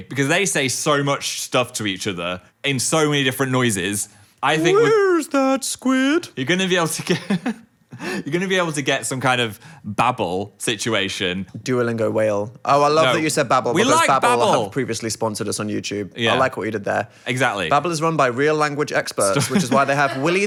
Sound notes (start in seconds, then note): 7.0 chuckling